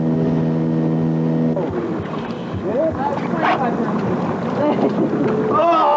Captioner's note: water sounds; laughter